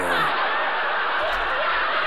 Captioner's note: laughter